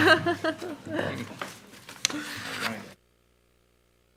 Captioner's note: laughing